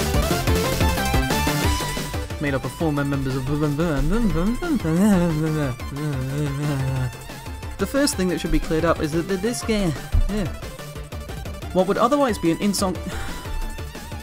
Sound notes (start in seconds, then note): 2.3 sounds of fluffing his lines